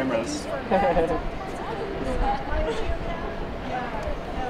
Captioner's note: person laughs